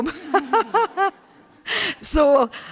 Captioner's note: laughter